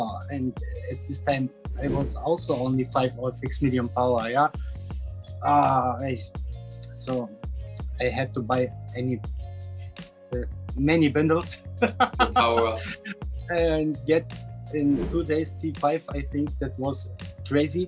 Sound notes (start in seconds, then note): 11.8 laughing